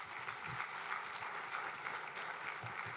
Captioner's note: applause